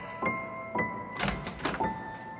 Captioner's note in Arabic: يفتح الباب